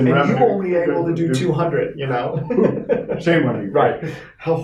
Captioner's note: laughing